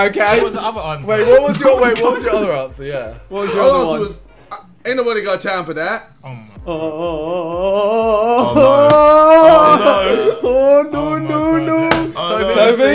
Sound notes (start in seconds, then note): 6.4 oohing